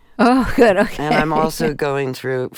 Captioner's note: laughter